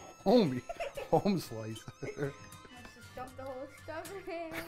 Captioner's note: chuckling